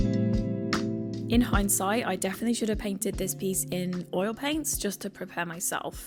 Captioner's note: voiceover